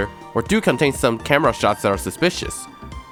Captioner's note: none